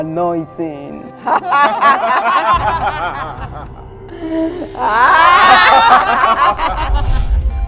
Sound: laughter

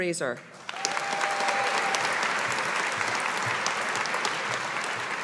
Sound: audience applauding

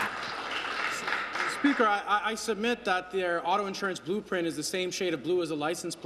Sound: applause

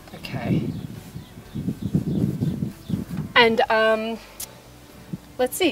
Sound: wind blowing through microphone

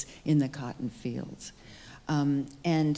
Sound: none

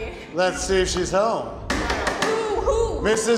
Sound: knocking

